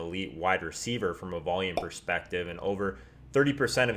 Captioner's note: pop